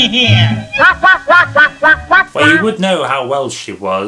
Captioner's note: quacks